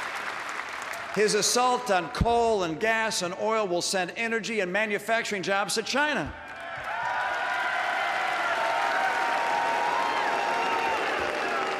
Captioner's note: booing and applause